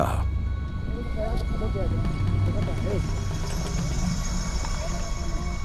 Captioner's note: speaking foreign language